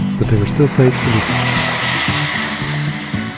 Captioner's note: woosh